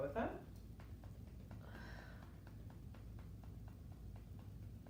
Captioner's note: gentle tapping